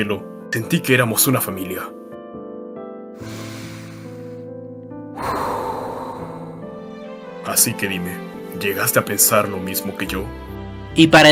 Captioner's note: sigh